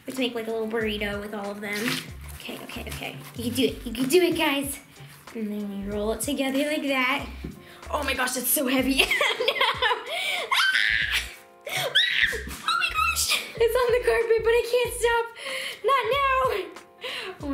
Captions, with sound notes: Let's make, like, a little burrito with all of them. Okay, okay, okay, you can do it, you can do it guys, and then you roll it together like that. Oh my gosh, it's so heavy. (laughing) (screaming) Oh my gosh! It's on the carpet but I can't stop. Not now!